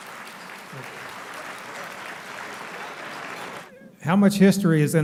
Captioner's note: applauding